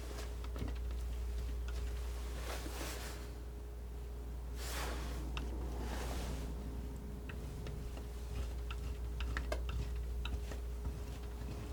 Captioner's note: tapping